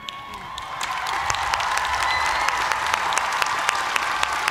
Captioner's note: cheers and applause